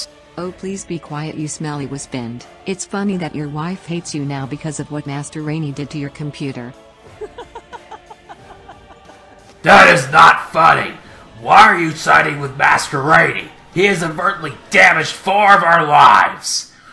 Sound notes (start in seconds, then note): 7.0 laughs